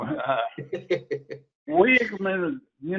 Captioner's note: laughing